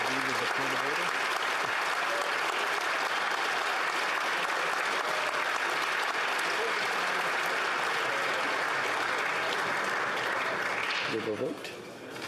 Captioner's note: applause